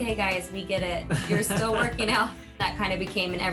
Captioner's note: laughs